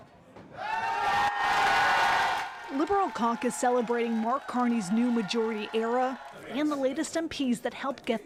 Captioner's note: cheers and Applause